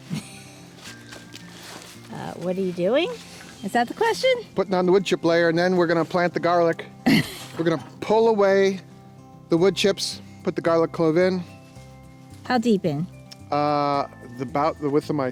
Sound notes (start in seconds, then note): 0.1 woman chuckles; 7.0 woman chuckles